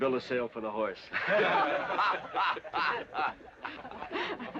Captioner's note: crowd laughing